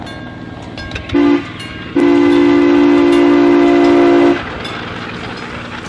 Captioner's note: sound of train horn